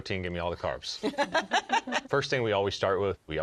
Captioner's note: all laugh